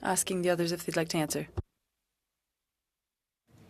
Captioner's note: speaking French